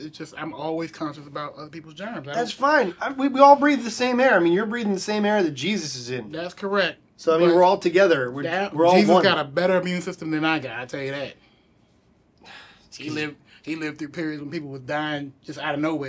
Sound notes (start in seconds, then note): 12.4 sighs